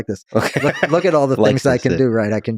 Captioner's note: Lex laughing